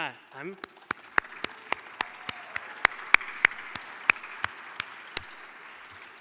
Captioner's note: audience applauding; clapping